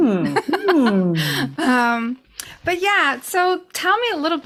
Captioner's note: laughs